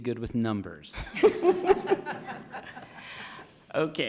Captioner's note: all laughing